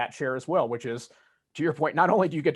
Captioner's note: chuckles